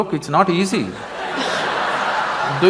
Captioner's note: laughter